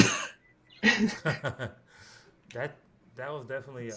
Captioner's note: laughter